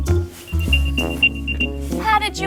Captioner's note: rapid beeping